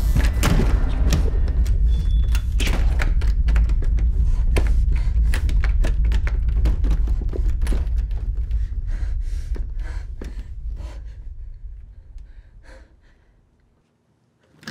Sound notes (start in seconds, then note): 0.0 door slams; 2.8 lock clicks; 8.2 footsteps receding; 10.0 heavy breathing